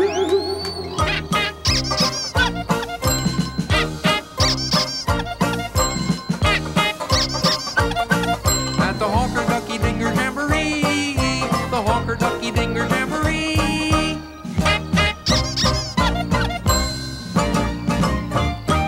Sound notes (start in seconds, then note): 0.1 boing; 1.0 honks, squeaks, dings; 14.6 honks, squeaks, dings